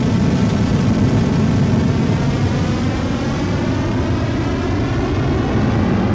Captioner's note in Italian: Helicopter Sound